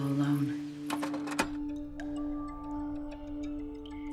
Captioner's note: projector wheel clacking